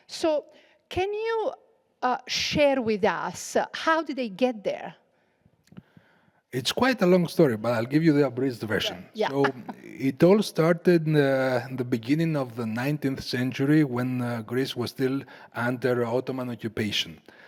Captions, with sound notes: So can you share with us, how did they get there? - It's quite a long story, but I'll give you the abridged version. - Yeah. (laughs) - So it all started the beginning of the 19th century when Greece was still under Ottoman occupation.